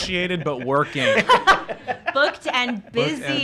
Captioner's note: laughing